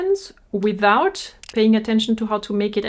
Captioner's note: camera shutter clicks